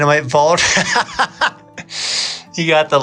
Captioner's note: laughs